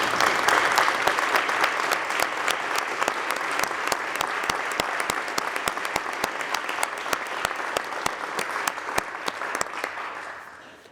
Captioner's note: applause